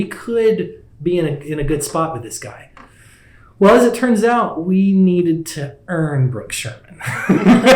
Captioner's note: laughs